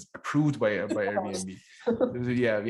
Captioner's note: laughter